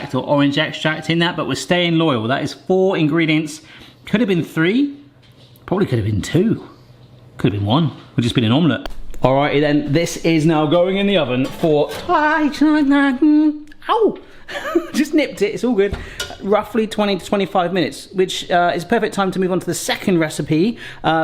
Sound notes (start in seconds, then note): 14.4 laughs